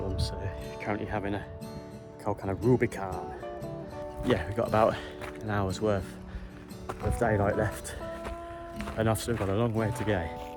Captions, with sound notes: so I'm currently having a cold can of (Thick American accent) RUBICON!!! yeah we've got about an hours worth of daylight left and I've still got a long way to go